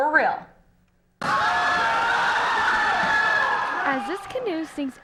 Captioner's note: cheering and shouting